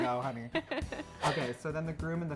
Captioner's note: laughs